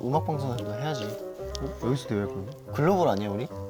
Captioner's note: hurt